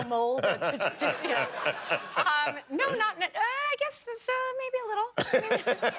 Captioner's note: laughter